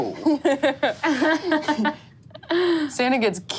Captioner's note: laughs